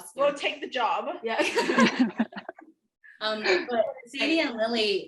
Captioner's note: laughter